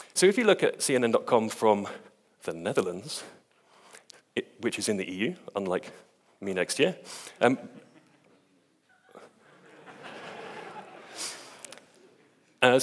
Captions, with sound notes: So if you look at cnn.com from the Netherlands, which is in the EU, unlike me next year. (audience laughs)